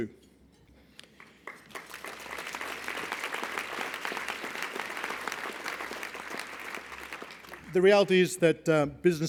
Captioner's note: applause